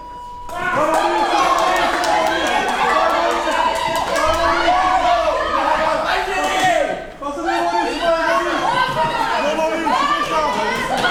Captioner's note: crowd cheering